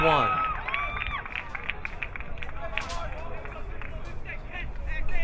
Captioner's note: crowd applauding